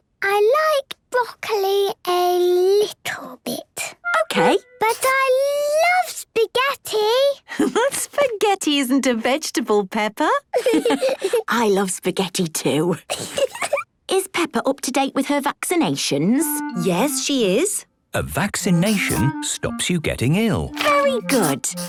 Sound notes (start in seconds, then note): 10.5 laughs